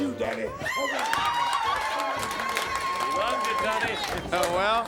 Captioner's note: crowd cheering